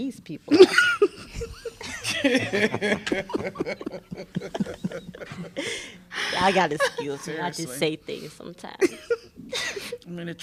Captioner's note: laughter